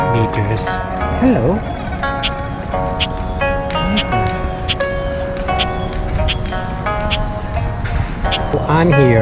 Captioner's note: noise of birds